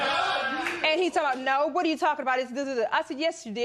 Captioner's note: laughter